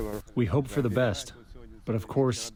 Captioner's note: through translator